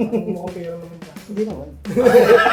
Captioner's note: whispers; laughs